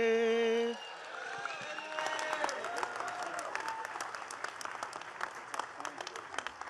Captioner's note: attendees cheering and clapping